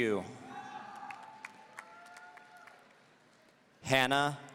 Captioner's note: audience cheering